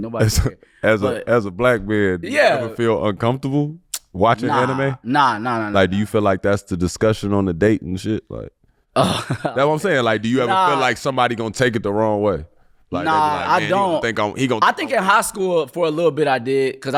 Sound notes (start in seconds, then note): 3.9 sucking his teeth; 9.0 laughing